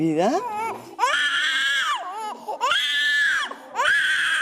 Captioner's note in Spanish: bebé llora